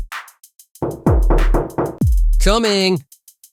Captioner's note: knocking on door